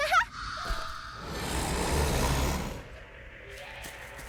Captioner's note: roars